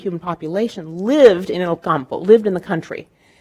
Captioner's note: speaking in foreign language